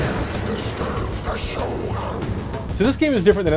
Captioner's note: thunderclap